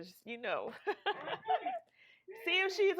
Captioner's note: laughing